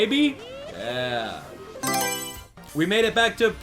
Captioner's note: Mario Selection Sound